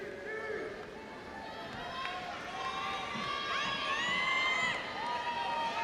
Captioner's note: audience applauding and cheering